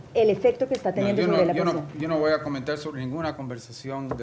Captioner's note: speaking spanish